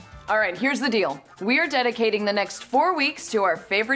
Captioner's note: none